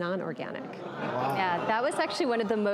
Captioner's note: crowd gasps